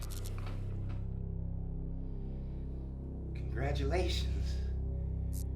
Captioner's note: electricity buzzes